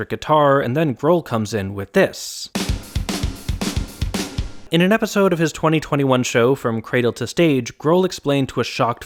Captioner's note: bang